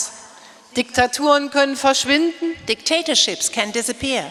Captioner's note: speaking in German